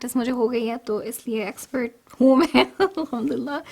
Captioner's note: laughs